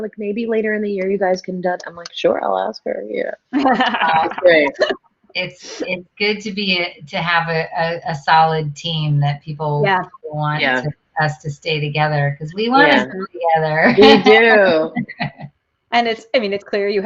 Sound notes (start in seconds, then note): 3.5 all chuckling; 15.4 laughing